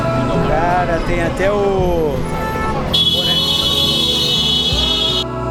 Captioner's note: loud honk noise